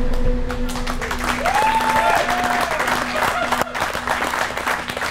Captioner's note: cheering